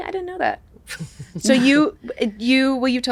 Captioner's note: Katie and Judith chuckle